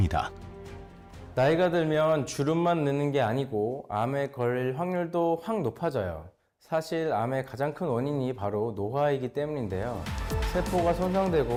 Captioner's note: voiceover